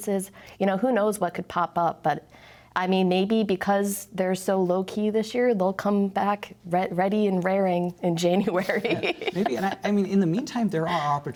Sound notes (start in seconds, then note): 8.6 laughter